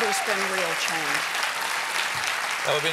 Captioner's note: cheers and applause